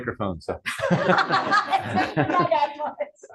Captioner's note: laughter